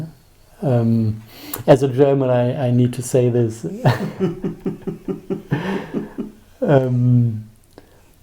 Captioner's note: laughter